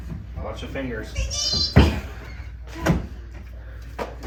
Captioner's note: groans